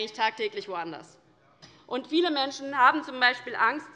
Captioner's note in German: none